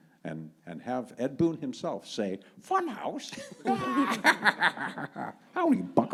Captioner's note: laughs